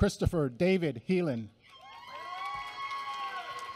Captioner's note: applause